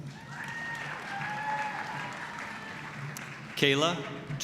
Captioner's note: applause, cheering